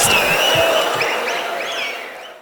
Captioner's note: wild applause and cheering for 22 seconds